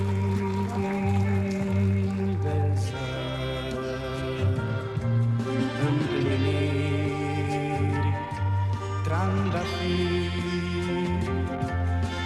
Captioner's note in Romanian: Aplauze